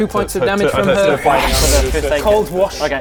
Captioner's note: whoosch